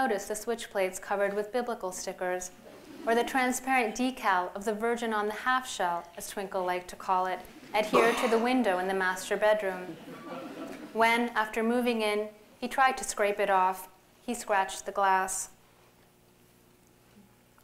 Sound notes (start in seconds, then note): 9.6 laughter